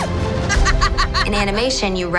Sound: laughing

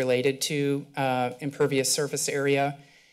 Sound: mic static

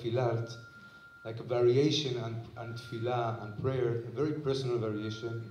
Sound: non-english

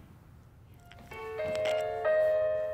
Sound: phone rings

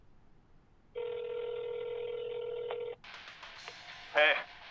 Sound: phone ringing

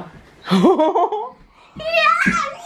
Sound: laughs

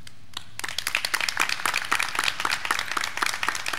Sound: graduands clapping

